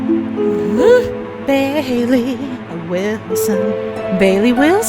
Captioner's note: sing-songy